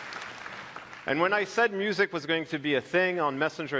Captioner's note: applause